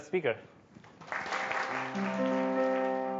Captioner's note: audience applauding; soothing music playing